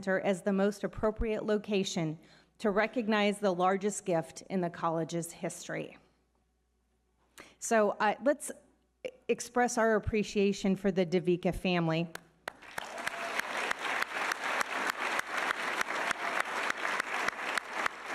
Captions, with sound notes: as the most appropriate location to recognize the largest gift in the college's history. So let's express our appreciation for the Dovica family. (all applauding)